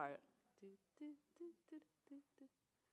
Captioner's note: hums